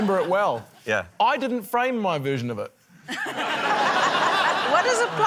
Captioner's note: laughter